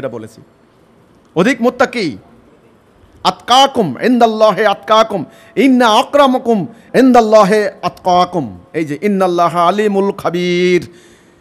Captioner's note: Arabic